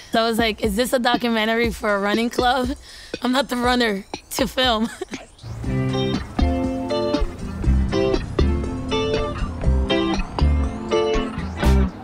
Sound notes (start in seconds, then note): 4.8 laughs; 5.9 gentle upbeat music